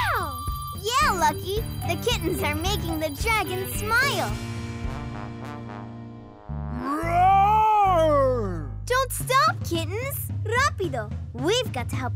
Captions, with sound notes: Yeah, Lucky, the kittens are making the dragons smile. [roaring] Don't stop, kittens! ¡Rápido! We've got to help the kittens